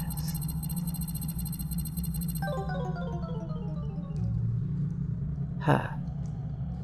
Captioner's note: beep beep beep - then a sad ‘game-over’ boooooop